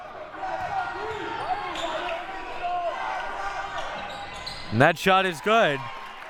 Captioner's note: audience chattering and yelling